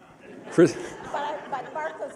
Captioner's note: laughter